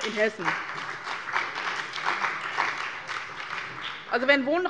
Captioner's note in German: Beifall bei dem BÜNDNIS 90/DIE GRÜNEN und der CDU